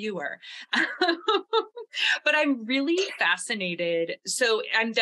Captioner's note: laughs